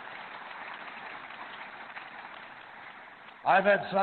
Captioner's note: applause